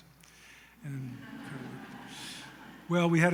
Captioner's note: laughter